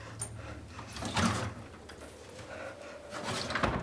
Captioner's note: door opening